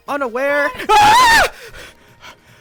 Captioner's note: screaming; rapid breathing